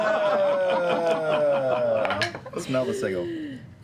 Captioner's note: laughter